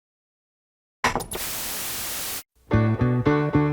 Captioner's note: TV statics